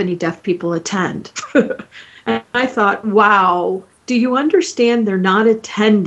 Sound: chuckling

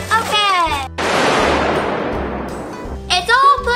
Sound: loud crash

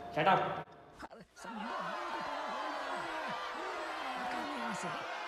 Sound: crowd angry at king

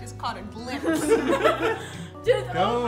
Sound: all chuckle

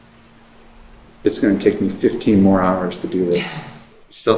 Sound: laughs

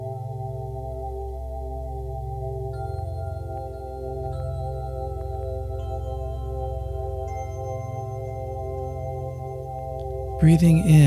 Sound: bell

